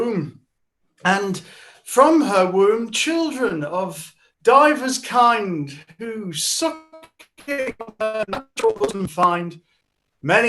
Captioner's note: glitching sounds